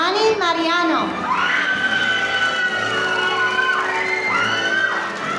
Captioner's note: audience cheering